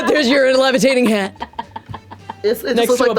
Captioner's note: laughter